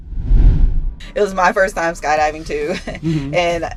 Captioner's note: laughs